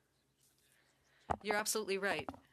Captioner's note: speaking French